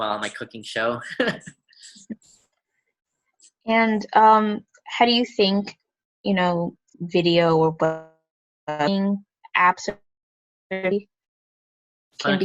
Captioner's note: glitching audio